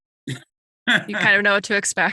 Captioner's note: laughs